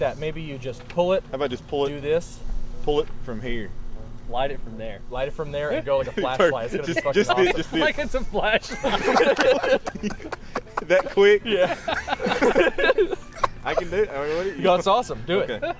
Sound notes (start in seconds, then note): 6.7 overlapping chatter; 7.6 laughing; 8.4 laughter